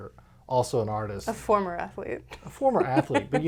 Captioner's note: laughs